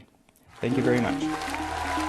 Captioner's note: cheers, applause